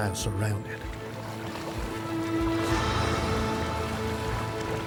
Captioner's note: water splashing